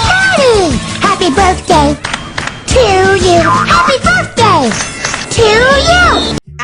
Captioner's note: clap, clap